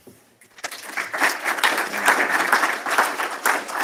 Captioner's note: applause